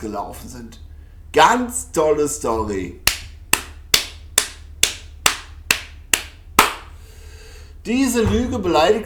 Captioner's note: clap